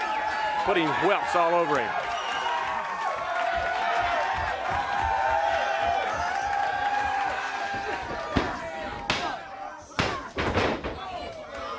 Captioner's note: crowd cheering